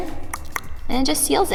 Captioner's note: clicks tongue